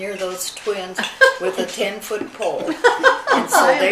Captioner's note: laughing